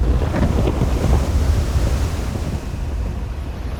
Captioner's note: thunder, high winds